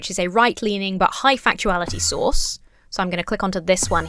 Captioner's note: Enderman whooshes